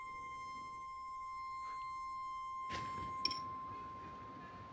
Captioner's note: piercing high-pitched tone